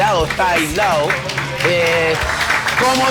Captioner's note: applause